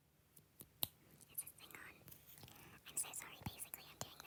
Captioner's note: snaps